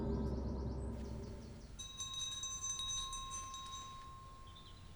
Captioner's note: bell chiming